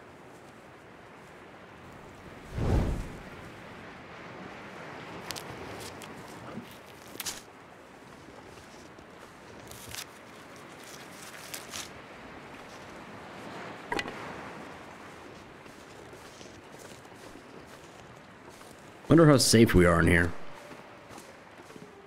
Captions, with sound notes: [Torch Ignites] I wonder how safe we are in here...